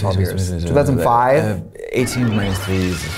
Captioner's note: Katya murmuring; machines beeping